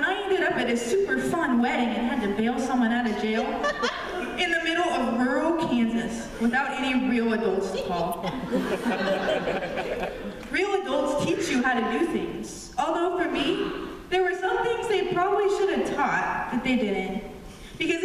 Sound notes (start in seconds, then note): 8.2 laughter